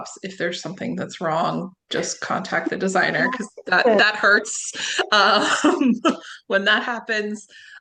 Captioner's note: laughs